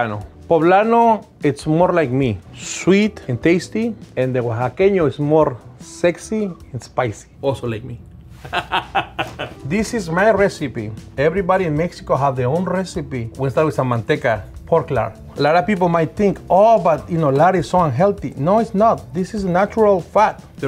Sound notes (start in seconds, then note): 8.4 laughs